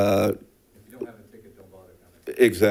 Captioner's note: speaking faintly